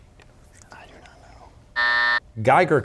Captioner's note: whispering; buzzer